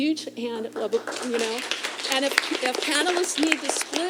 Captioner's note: applause